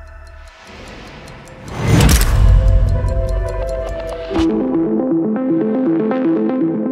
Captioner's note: clock ticking; boom resounds; calm electronic music